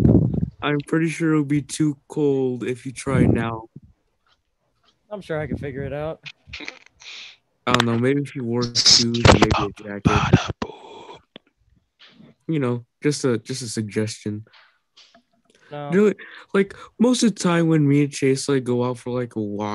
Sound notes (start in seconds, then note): 10.2 sighs